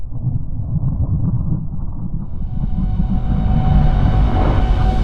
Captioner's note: thunder